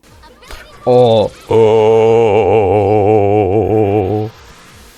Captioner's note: drawn out fear